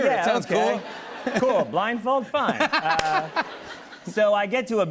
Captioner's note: laughter